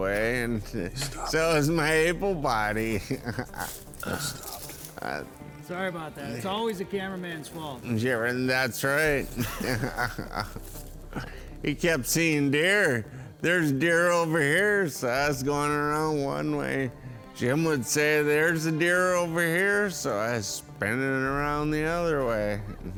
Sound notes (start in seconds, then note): 0.4 laughs; 8.8 laughs